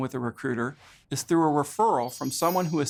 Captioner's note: chimes tinkling